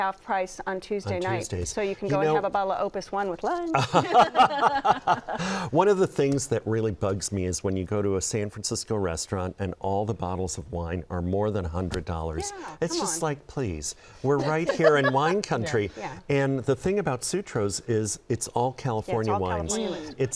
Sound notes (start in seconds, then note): 3.7 laughter